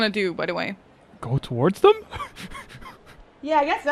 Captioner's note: laughs